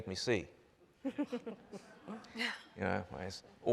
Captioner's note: panel laughs